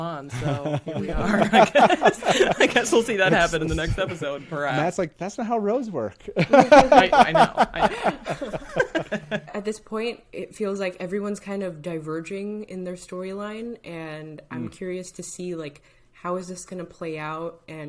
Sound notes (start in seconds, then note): 0.2 all laughing; 7.8 all laughing